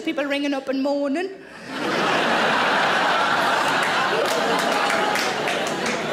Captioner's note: audience laughs and applauds